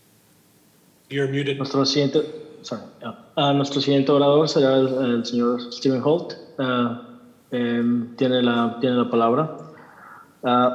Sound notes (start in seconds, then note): 1.7 man speaking in Spanish; 3.6 translator speaking in Spanish